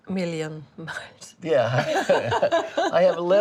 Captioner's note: laughing